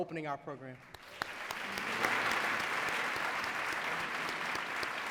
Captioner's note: applause